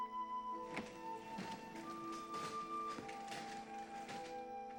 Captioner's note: floor creaking